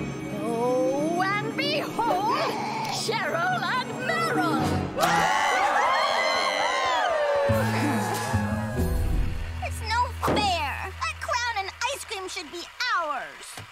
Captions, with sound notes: lo and behold, CHERYL AND MERYL! [screaming] [sighing] It's no fair. That crown and ice cream should be ours.